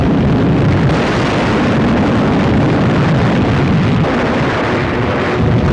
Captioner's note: explosions